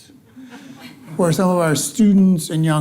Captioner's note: audience laughing